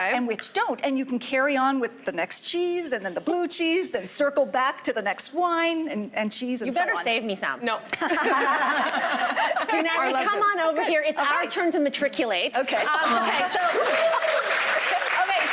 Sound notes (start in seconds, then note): 7.9 laughing; 12.7 audience applauding